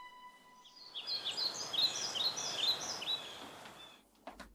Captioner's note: birds chirp